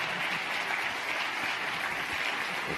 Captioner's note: applause